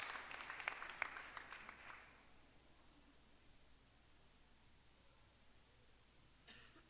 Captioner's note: applause